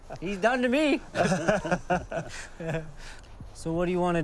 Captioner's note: laughing